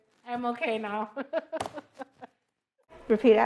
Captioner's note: laughs